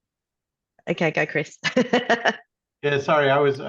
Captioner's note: laughs